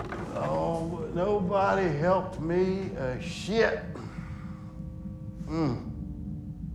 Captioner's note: groans